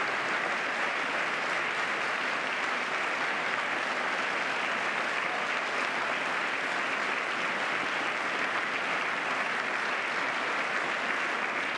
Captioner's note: applause